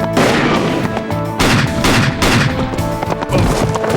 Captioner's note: gunshot